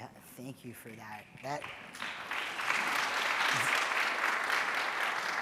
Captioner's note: audience applauding